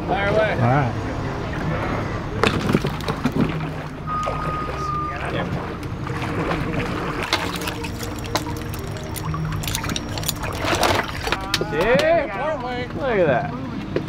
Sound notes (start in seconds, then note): 0.2 male Voice; 2.9 water splashes; 7.3 chain rattles; 12.3 male Voice